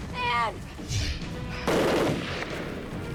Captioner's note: gun fires